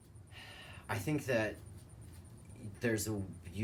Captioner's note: exhales